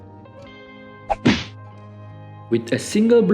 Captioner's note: bang!